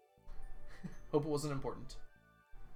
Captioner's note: chuckles